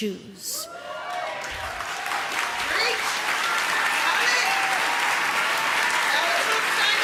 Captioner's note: audience cheering